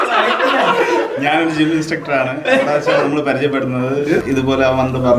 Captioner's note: ahem